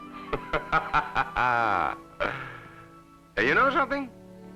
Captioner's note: laughing